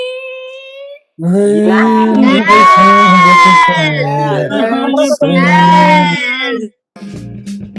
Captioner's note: cheering